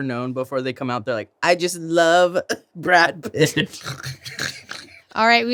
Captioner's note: laughs